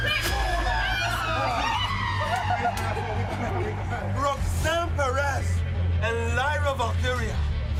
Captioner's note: ambulance siren